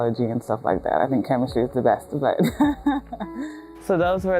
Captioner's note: laughter